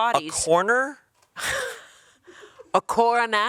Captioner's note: chuckling